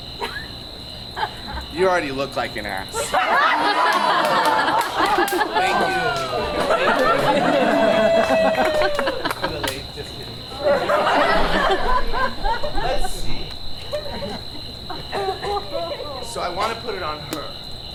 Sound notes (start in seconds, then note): 3.2 audience laughs; 8.5 audience cheering; 11.0 audience laughs